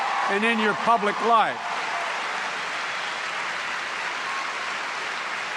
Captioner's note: applause